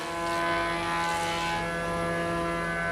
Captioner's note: engine noises